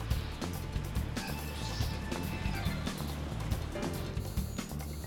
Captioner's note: wind howling; buzzing